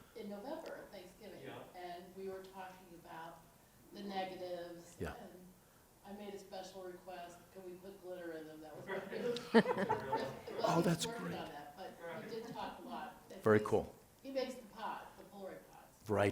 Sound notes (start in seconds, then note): 9.3 laughing